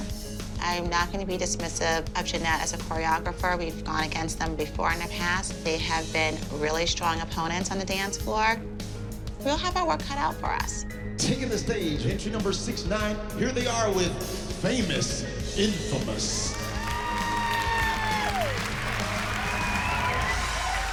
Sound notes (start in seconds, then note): 16.2 crowd applauds, whoops